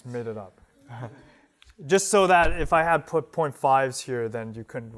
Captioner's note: laughter